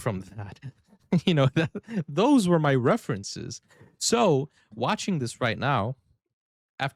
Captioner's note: laughter